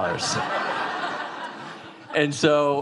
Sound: audience laughing

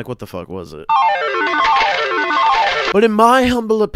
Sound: casino slot machine noise

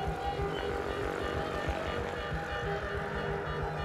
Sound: airplane rumbles

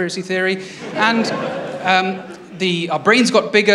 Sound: laughter

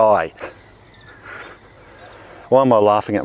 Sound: giggles

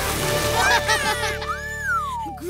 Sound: laughing

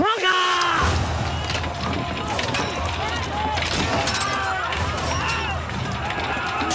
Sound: soldiers yelling; weapons clanking

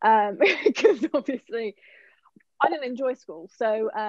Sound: laughs

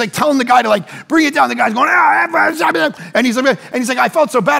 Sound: imitates ranting

